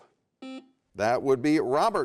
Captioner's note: buzzer buzzes